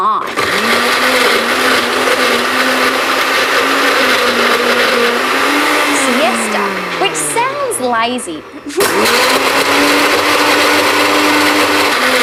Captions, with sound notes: (BLENDER DROWNS SPEECH) ..siesta, which sounds lazy... (BLENDER DROWNS SPEECH)